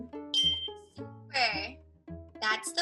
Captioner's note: bell chimes